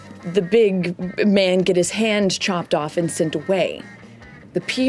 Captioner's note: none